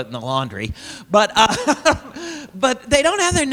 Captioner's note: laughs